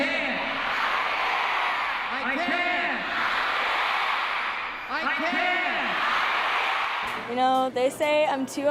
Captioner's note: crown shouting I can